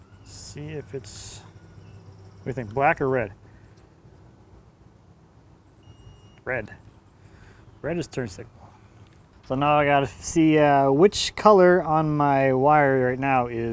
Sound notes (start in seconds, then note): 5.8 tester beeps